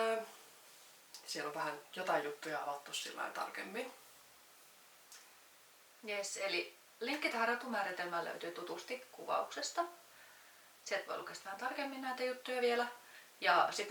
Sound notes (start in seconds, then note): 7.1 in Finnish